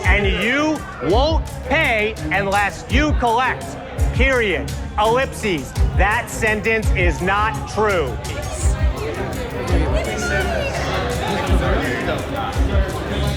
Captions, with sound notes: and you won't pay unless you collect, period. Ellipses, that sentence is not true. (people chattering)